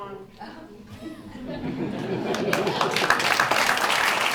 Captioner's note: laughing; applause